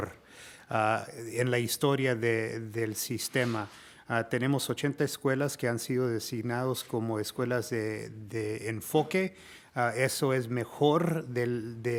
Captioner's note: speaking spanish